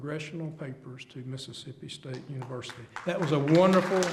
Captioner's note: applause